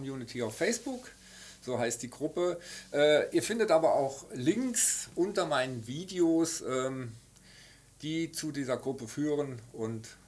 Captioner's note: German language